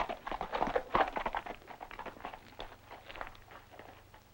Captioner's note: hooves clop